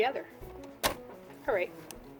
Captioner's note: thump